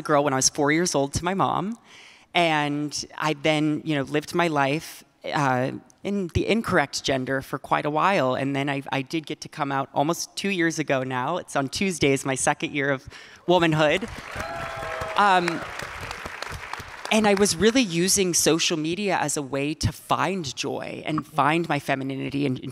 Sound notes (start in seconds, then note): 13.9 audience and panelists clapping; 14.0 audience cheering